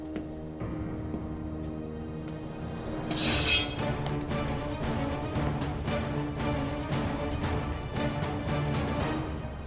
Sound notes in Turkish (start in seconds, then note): 3.0 Kılıç çekme sesi